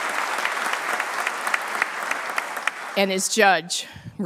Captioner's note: applause